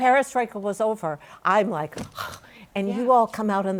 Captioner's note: sighs